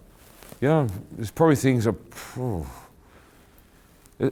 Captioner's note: exhaling